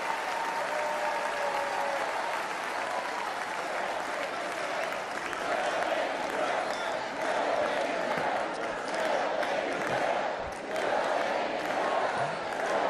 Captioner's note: cheers and applause